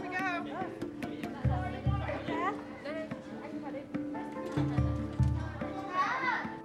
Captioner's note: background talking